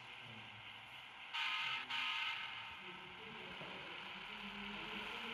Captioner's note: 2424 sounds in appreciation